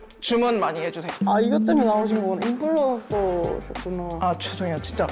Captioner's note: realization sound effect